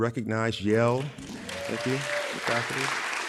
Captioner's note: audience applauding and yelling